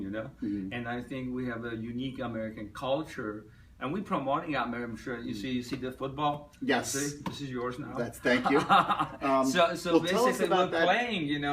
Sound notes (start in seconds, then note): 8.4 laughs